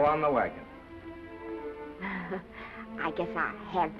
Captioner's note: Esther laughing